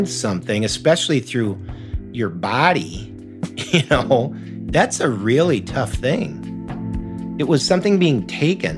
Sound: laughs

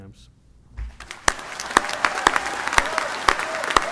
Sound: applause

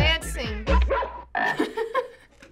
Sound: dog barks; frog croaks; chuckles

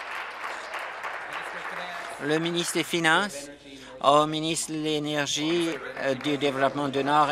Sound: applause

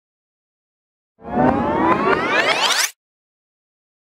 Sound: sound of tape rewind

